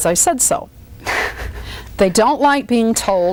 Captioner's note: laughs